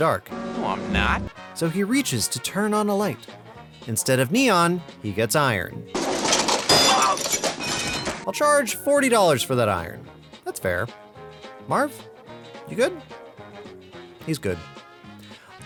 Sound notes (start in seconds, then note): 6.0 clang